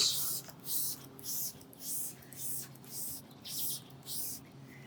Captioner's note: liquid spraying